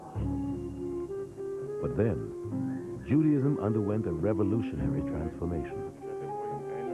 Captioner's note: man Talking In Hebrew